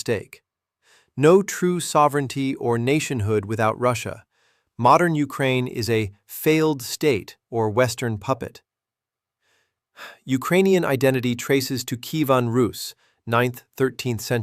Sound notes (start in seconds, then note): 9.9 exhales sharply